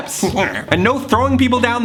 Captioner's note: growls